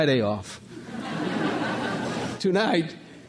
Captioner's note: crowd laughs